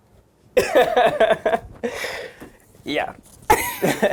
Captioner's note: laughs